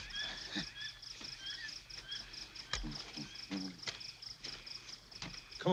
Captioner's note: birds calling; insects chirp